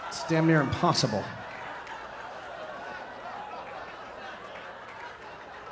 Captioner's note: audience laughing